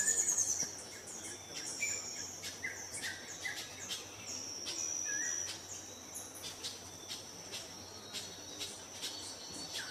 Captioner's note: birds chirping